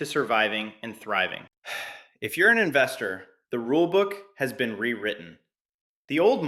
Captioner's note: excited; sighs